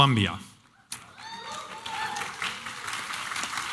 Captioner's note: applause and cheering